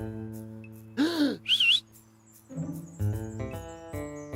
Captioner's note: gasps and whistles